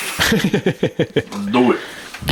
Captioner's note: laughing